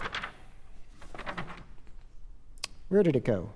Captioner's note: pages Turning